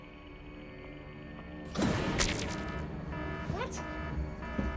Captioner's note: alarm sounding